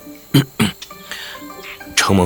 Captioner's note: ahem